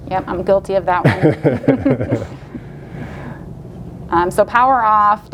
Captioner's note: laughs loudly